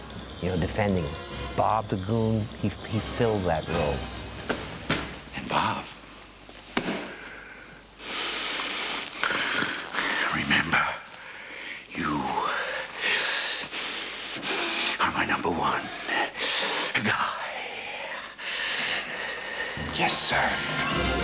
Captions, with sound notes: You know, defending him. Bob the Goon, he filled that role. And, Bob.... [WHEEZING] Remember... ...you... ...are my number one guy. Yes, sir.